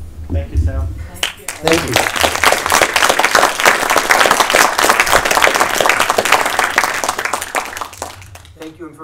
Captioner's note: applause